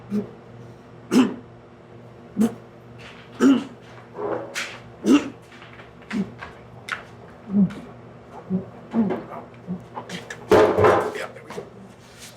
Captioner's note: coughing and choking